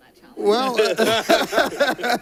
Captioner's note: laughter